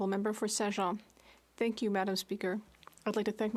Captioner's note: speaking in French